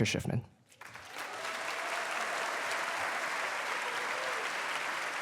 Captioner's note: cheers, applause